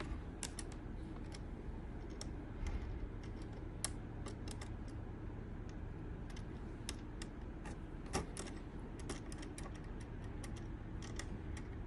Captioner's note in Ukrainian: Звук дротів